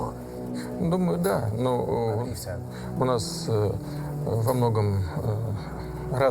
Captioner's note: speaking foreign language